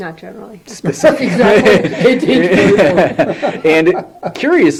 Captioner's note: laughter